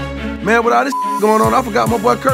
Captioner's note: beep